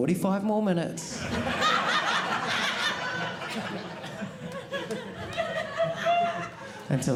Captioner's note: audience laughing